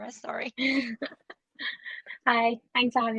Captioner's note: chuckles